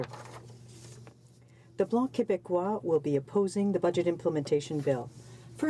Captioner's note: speaking French